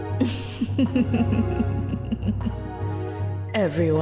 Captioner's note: Maltia laughs